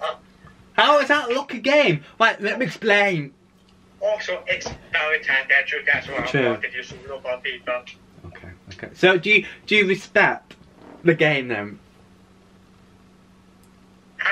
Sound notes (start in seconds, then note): none